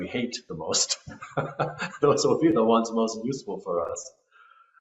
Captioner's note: laughter